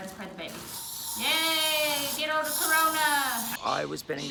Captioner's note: hissing